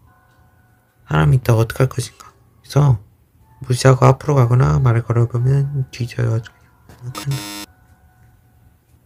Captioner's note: beep beep